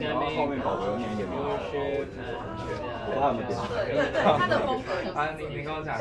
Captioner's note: speaking in foreign language